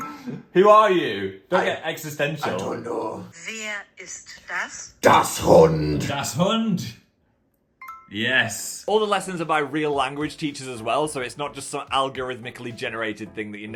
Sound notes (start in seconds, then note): 3.7 voiceover speaks in German; 5.0 speaks in German